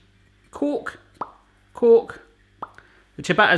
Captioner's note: popping